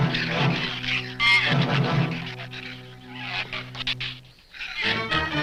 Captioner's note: shrews chatter